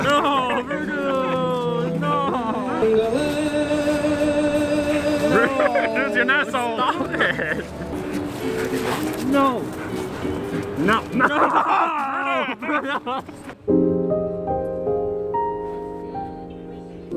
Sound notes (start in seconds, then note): 2.9 christmas upbeat music; 4.9 laughs; 13.4 laughing; 13.6 gentle upbeat music